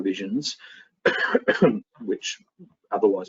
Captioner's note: coughs